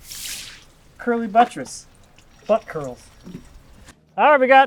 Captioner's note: water swishes